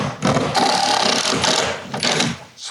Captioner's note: electric drill sound